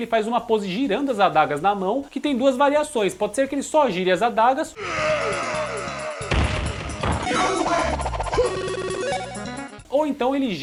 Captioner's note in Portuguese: gemido